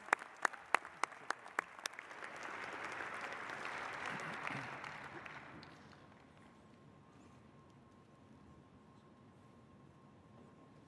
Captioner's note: applause